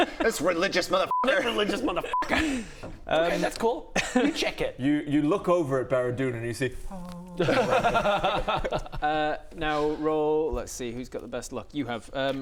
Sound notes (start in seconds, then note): 6.6 heavenly chorus; 7.3 jealous laugh